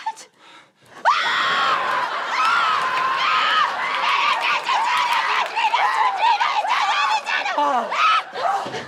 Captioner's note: screaming; gasps; screams